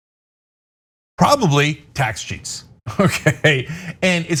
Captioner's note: laugh